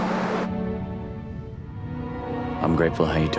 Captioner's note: water burbling